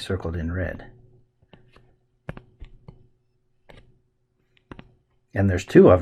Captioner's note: writing Sounds